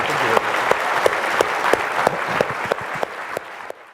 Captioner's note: audience clapping